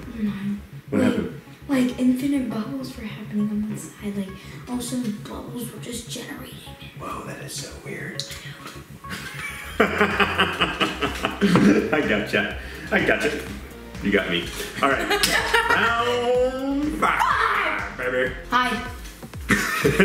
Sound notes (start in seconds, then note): 9.1 laughs; 14.6 laughs